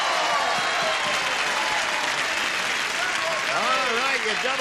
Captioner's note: cheering